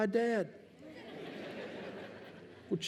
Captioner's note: laughter